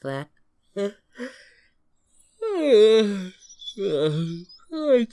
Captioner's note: yawns